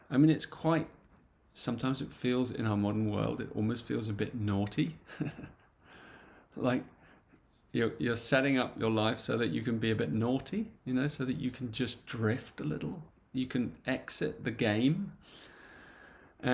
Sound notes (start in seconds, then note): 5.0 chuckles